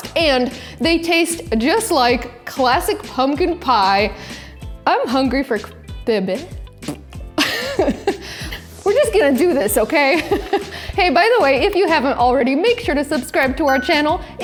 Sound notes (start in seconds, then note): 6.7 blows raspberry; 7.4 chuckles